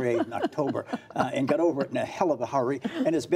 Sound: laughter

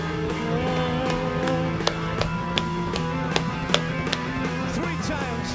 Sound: clapping to the beat

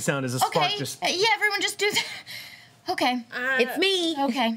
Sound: laughs

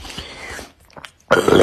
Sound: quick inhale; swallow

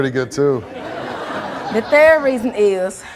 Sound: audience laughing

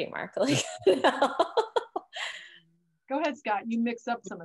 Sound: laughs

